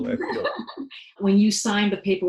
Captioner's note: laughing